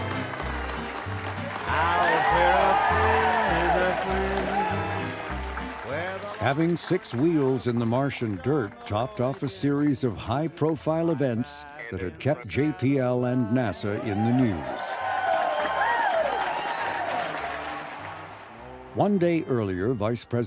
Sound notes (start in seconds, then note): 18.9 crowd cheering